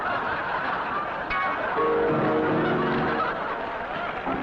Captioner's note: laughter